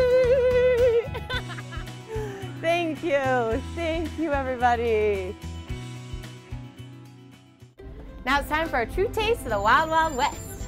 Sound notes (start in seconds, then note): 1.0 laughing